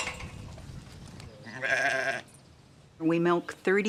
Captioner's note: bleating